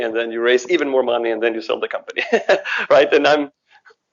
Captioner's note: laughs